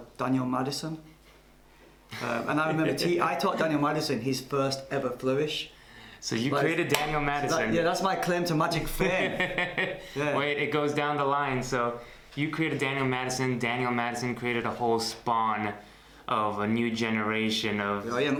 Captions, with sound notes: Called Daniel Madison. - (laughs) - And I remember I taught Daniel Madison his first ever flourish. - So you created Daniel Madison? - Yeah that's my claim to magic fame. - (laughs) It goes down the line so You created Daniel Madison, Daniel Madison created a whole spawn of a new generation of...